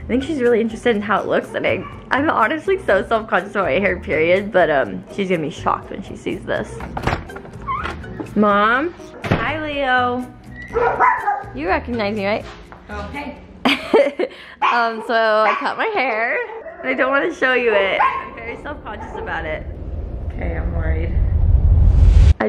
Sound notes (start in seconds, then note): 10.6 barking; 13.6 laughing